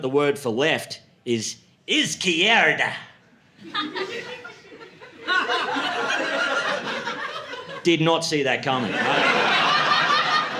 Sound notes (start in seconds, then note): 3.6 laughter